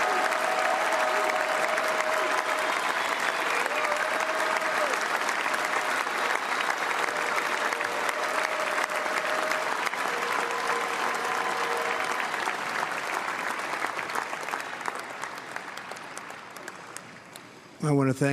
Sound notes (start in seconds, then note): 2.4 applause